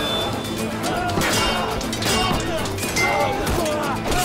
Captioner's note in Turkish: Kılıç sesleri